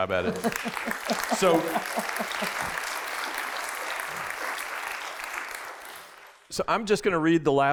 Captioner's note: applause